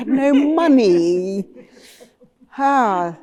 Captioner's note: laughter